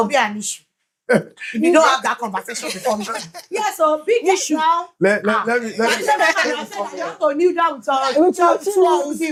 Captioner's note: speaking In Foreign Language